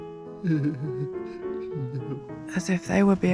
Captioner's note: sheep whimpering